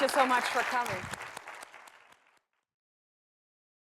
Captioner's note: applause